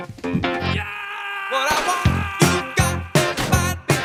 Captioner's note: yelling